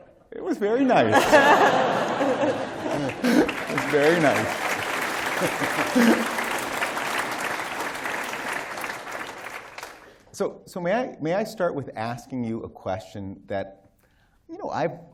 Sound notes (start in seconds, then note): 1.0 laughter; 4.6 applause